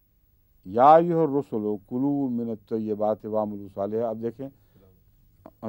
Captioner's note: Arabic